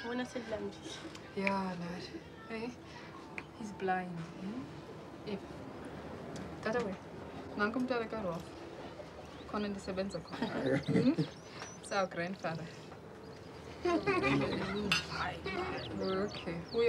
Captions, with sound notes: HE'S BLIND. [speaking Swahili] [in English] HE'S OUR GRANDFATHER. OK.